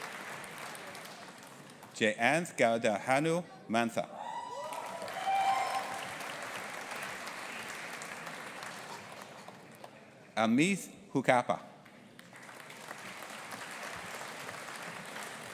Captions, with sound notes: Jayanth Gowda Hanumantha. (AUDIENCE APPLAUDING AND CHEERING) Amith Huchappa. (AUDIENCE APPLAUDING)